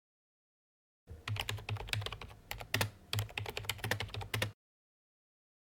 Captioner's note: typing